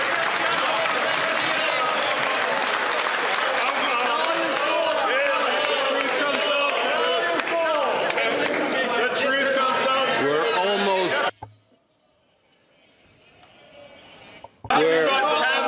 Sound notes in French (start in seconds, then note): 0.0 applaudissements